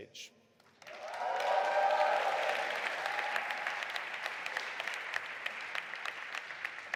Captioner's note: audience applauding and cheering